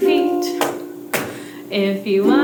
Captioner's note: stomp, Stomp